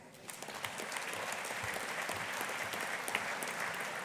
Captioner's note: audience applauding